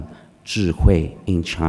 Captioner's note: speaking foreign language